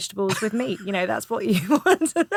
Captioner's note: Romesh laughing